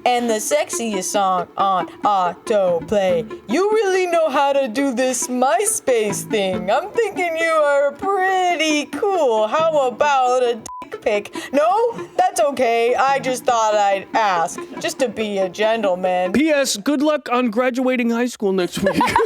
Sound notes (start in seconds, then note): 10.6 beep